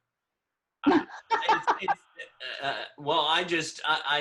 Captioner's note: laughs